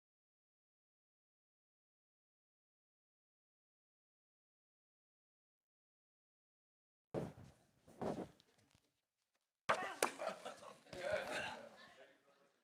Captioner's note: applause